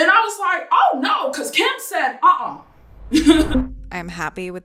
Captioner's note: laughs